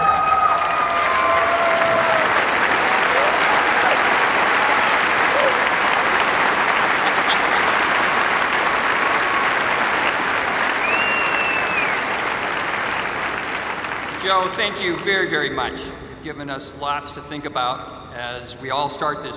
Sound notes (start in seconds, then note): 4.2 cheers and applause